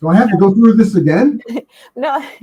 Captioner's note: both laughing